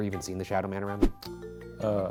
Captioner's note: air whooshing